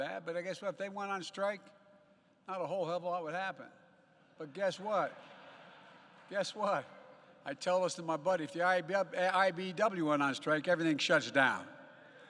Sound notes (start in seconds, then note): 5.0 laughter